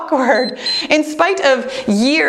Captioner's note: timer beeps; chuckles